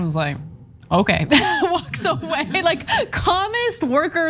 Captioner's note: laugh